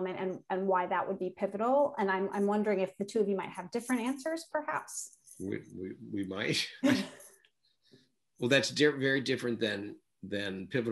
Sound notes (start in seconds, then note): 6.6 chuckles